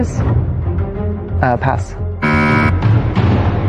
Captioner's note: buzzer sounds